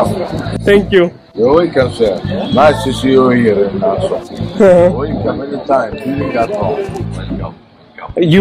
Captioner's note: Foreign language